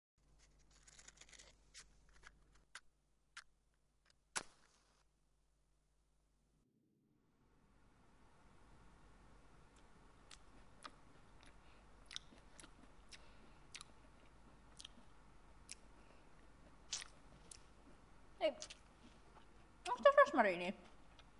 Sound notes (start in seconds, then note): 0.2 sound of matches; 10.2 muffled sounds of eating